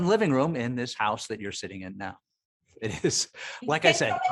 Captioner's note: chuckling